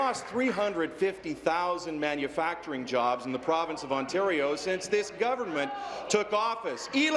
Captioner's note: applause